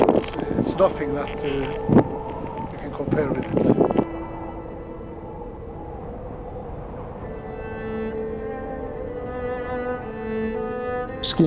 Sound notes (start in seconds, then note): 4.3 wind howling; 8.3 majestic music